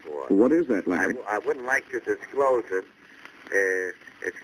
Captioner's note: on phone